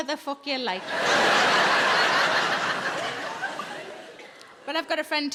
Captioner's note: audience laughs